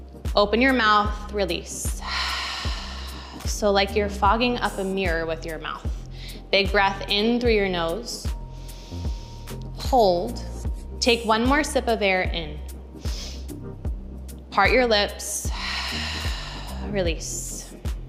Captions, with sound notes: Open your mouth, release. (exhaling) So like you're fogging up a mirror with your mouth. Big breath in through your nose. (inhaling) Hold, take one more sip of air in. (inhales) Part your lips (exhales) release.